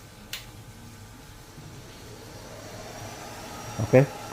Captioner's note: vacuum machine noise